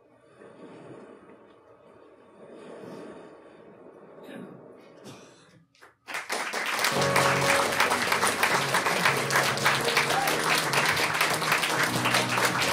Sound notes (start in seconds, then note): 5.8 audience applauding; 9.2 mellow melodic music